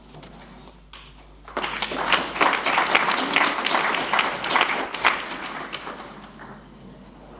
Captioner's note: applause